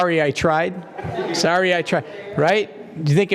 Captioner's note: laugh